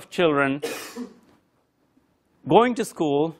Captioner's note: cough